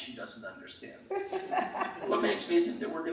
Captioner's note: laughing